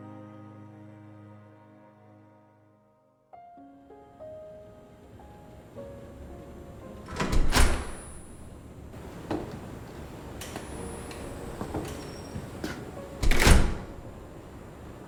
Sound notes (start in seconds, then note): 7.0 metal door opens offscreen; 13.1 metal door closes offscreen